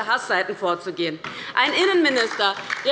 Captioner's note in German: Beifall bei der LINKEN